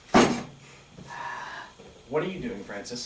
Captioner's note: loudly re-arranges the desk; Sampson sighs in pre-emptive annoyance and Francis sighs in frustration